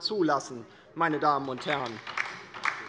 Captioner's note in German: Beifall bei der LINKEN